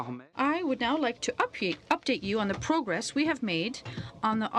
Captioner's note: speaking French